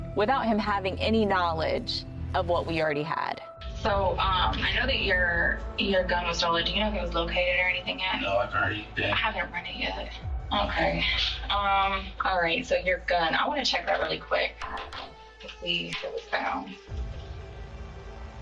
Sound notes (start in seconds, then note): 9.2 indistinct chattering; 16.9 tense music